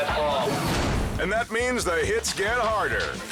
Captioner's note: transition whooshes